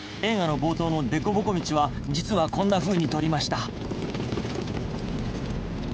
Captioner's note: none